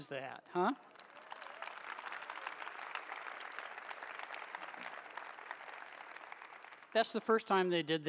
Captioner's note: applause